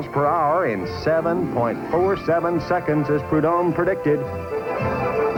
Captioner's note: engines roaring